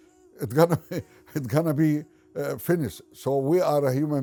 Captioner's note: laughs